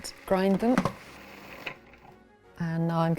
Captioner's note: mixer hums